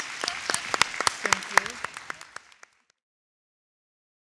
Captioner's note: audience applauds